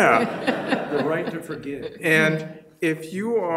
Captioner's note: audience laughing